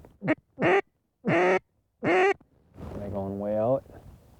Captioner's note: duck calls